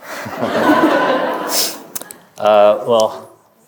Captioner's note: audience laughing